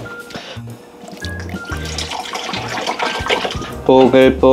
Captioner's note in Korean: 콸콸콸